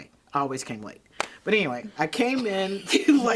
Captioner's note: both laughing